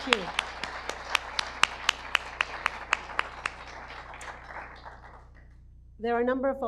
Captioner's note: audience applause